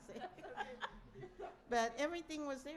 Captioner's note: laughter